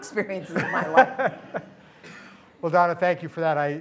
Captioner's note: laughter